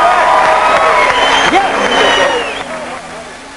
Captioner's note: wild applause!